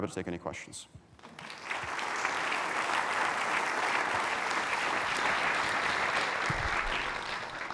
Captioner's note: applause